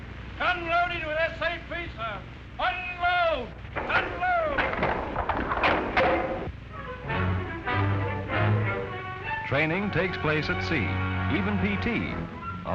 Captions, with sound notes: - Gun loaded with SAP sir. - [Voiceover] Unload! - Unload! (clunk) - [Voiceover] Training takes place at sea, even PT,